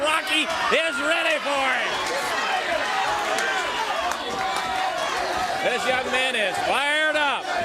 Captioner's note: crowd cheering